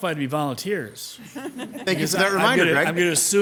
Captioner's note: all laughing